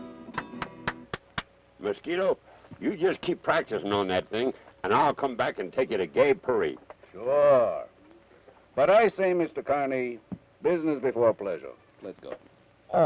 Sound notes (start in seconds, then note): 0.1 Carney applauds